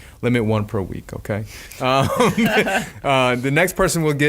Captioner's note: laughing